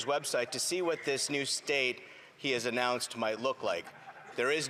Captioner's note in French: voix de l'interprète